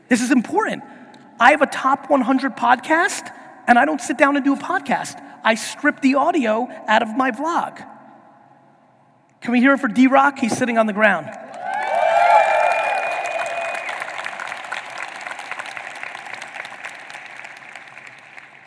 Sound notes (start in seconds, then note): 11.4 audience cheering and applauding